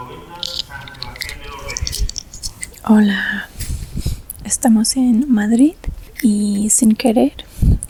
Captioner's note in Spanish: train station announcements